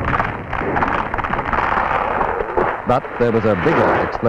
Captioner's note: sound of tree cracking and falling